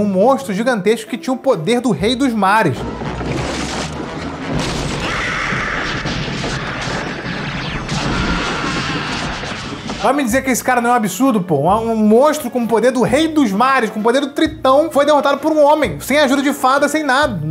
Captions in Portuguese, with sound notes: um monstro gigantesco que tinha o poder do rei dos mares. [grito] [trovões] Vai me dizer que esse cara não é absurdo, pô! Um monstro com o poder do rei dos mares, com o poder do Tritão foi derrotado por um homem, sem ajuda de fada, sem nada.